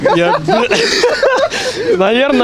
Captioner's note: laughing